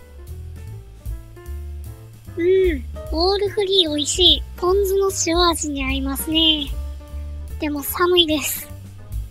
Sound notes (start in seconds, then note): 8.3 laughs